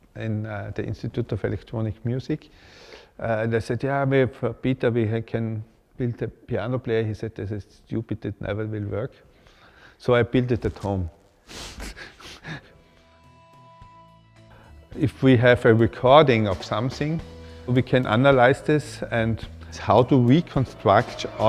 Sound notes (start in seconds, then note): 11.6 laughs